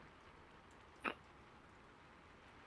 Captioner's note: kiss